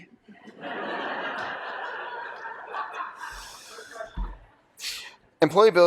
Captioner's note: laughter